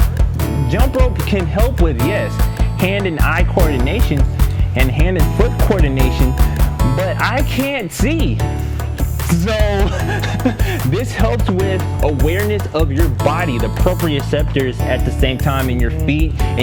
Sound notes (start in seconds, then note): 9.3 laughs